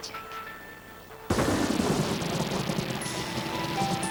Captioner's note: thunder rumbling